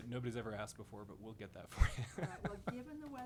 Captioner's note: laughs